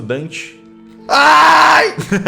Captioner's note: howls; laughs